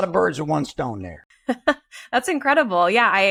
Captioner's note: laughs